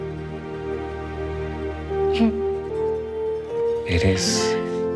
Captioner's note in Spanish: Sollozos